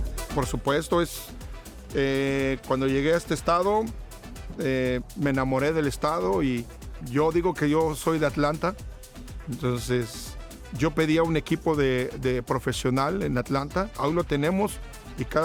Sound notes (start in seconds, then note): 0.1 speaking in foreign language; 9.4 continues speaking in foreign language